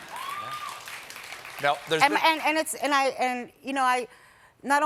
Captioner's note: applause